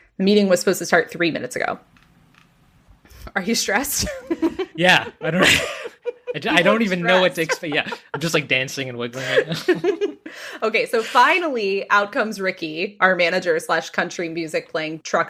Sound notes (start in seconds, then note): 7.0 laughs